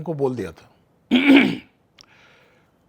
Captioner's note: clears throat